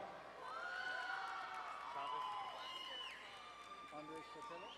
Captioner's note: crowd cheering and applauding